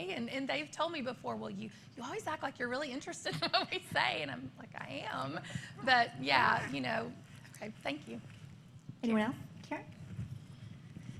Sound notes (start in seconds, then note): 3.3 laughter